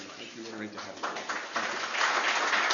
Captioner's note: applause